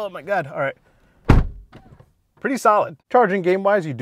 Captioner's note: door slamming